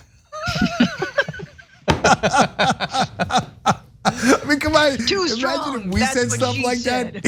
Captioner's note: laugh